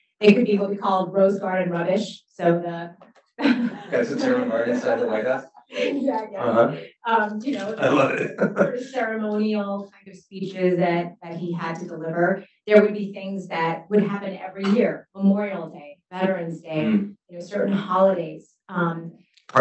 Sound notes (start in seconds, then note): 3.4 laughs; 8.6 laughs